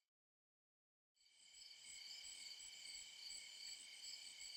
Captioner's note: crickets chirping